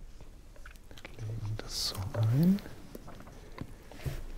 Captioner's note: quietly